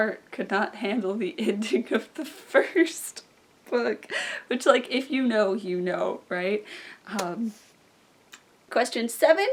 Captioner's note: kisses